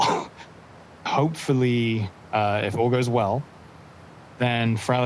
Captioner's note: laughs